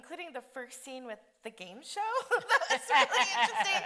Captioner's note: both laughing